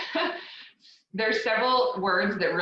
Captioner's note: laughs